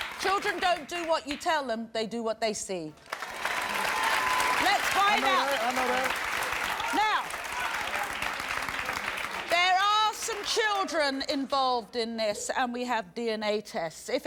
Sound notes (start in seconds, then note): 3.1 applause